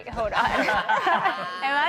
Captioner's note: all laugh